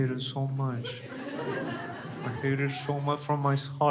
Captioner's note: crowd laughs